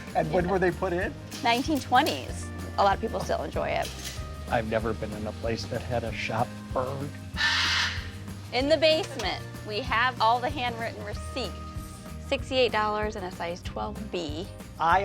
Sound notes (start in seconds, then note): 7.3 bird squawking